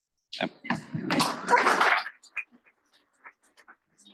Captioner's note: applause